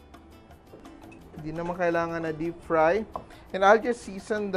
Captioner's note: knock